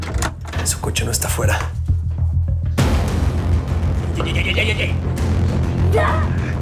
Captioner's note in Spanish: Grito